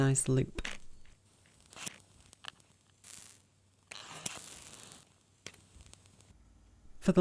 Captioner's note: rhythmic sounds of the matches